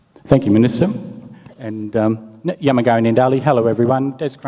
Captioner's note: speaks native language